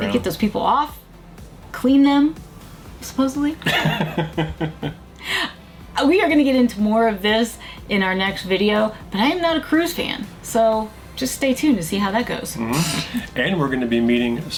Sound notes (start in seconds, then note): 3.6 laughs